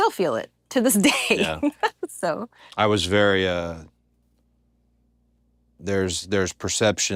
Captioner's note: laugh